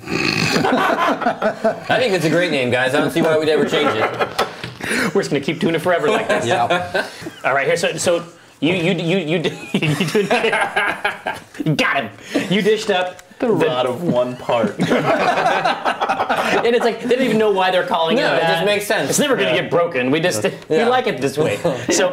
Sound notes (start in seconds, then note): 0.5 laughter; 6.2 verbalizing; 7.4 laughter